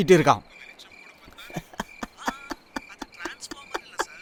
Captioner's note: laugh